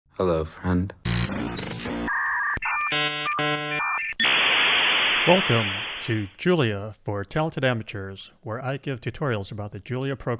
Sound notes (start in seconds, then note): 1.1 internet dial-up sound